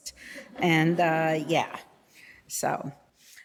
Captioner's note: audience laughing